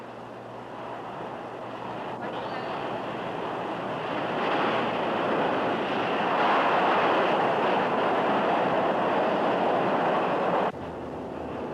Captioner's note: subway noises